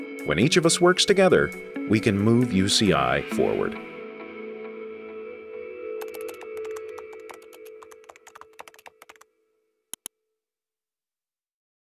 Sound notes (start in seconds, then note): 6.0 keyboard typing; 9.9 mouse click